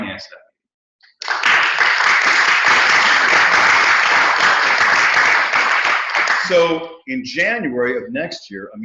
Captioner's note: applause